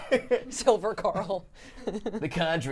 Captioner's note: laughing